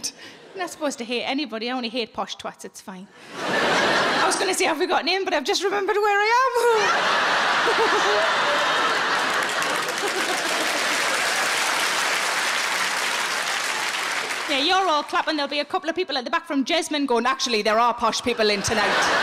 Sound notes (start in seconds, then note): 3.2 audience laughing; 6.6 all laughs; 7.6 audience clapping